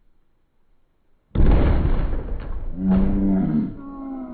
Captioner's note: crash